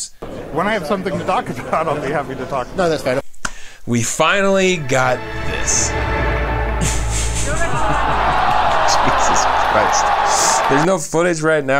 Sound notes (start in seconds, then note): 3.5 inhales; 5.8 crowd booing; 6.8 chuckles sadly